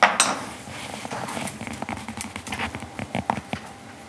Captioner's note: quiet creaking